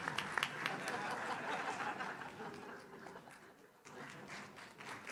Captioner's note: audience laughs